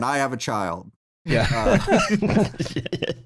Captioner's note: laughter